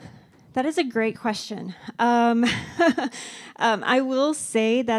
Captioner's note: laughs